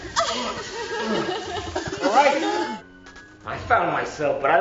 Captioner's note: woman crying